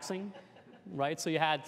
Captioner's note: laughter